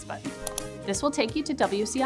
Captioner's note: mouse Clicks